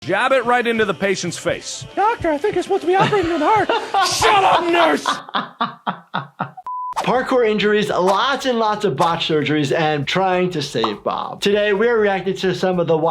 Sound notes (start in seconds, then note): 2.9 laughs; 6.9 broadcast signal